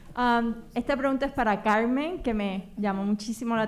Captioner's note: speaking spanish